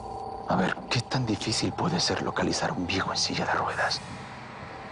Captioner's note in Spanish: En voz baja